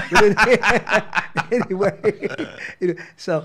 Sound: laughs

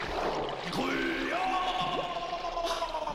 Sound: gurgling

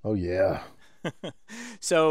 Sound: laugh

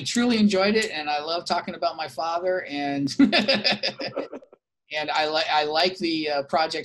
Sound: laughs

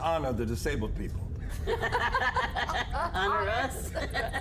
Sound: laughter

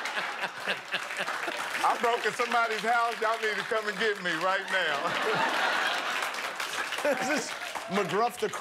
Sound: laughter

